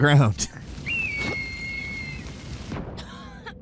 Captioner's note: eagle cries